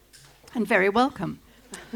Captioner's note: laughter